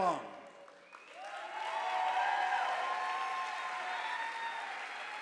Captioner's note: audience applauding